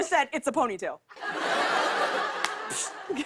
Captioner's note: laughter